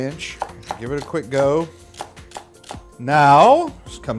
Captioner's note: knife whacking